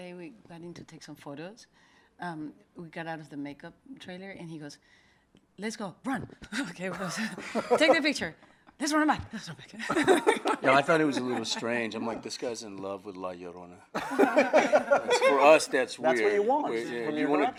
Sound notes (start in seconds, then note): 7.0 laughing; 9.9 laughing; 13.9 group laughs